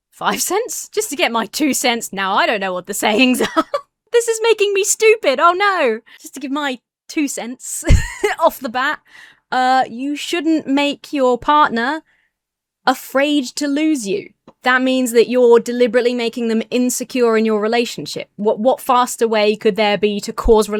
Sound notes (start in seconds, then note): 3.1 laughs; 7.8 laughs